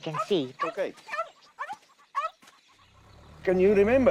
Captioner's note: barking